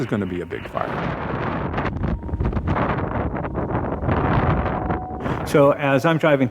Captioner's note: fire flames crackling